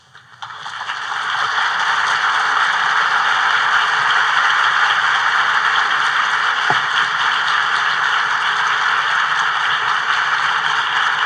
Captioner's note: applause